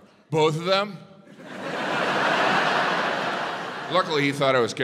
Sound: audience laughs

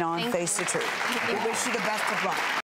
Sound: audience clapping

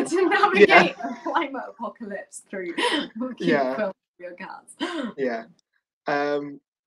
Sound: mumbling

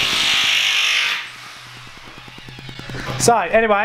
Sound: power tool buzzes

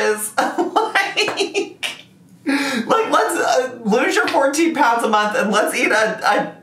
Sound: laughing

